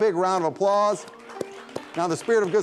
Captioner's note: audience applauds